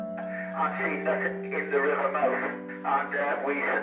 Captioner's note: radio